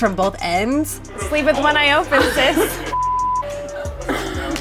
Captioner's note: beep